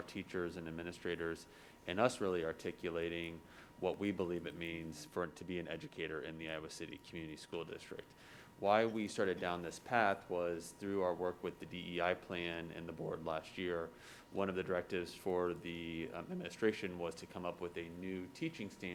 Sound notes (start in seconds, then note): none